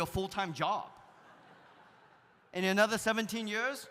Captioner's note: audience laughs